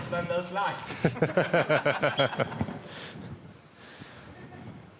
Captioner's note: all laugh